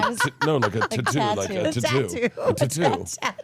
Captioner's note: laughs